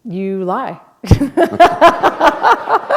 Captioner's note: laughter